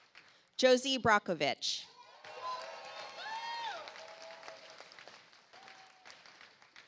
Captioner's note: audience applauds